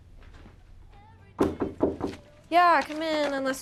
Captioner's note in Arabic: يطرق الباب